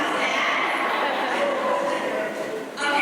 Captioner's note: laughter